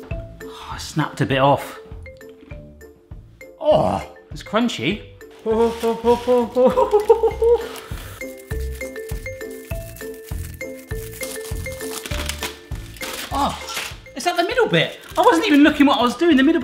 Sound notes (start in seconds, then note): 0.0 lively music; 6.6 laughing; 8.4 foil rustling